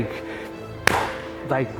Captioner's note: clapping